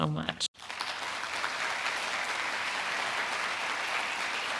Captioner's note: audience applauding